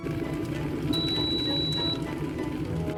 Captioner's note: cettle beeps